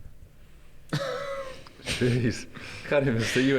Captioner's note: giggles